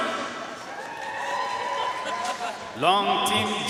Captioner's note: audience cheering and applauding